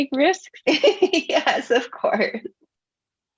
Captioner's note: laughing